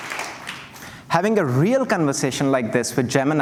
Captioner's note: cheers and Applause